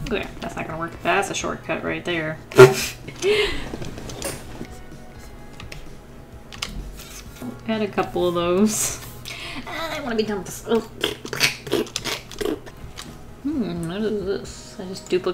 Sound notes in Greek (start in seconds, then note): 2.6 Γέλια; 10.6 Θόρυβοι απογοήτευσης